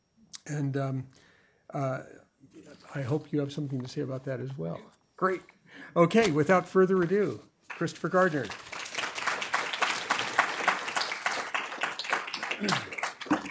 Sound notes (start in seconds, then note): 7.6 applause